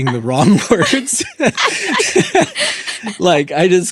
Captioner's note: laughing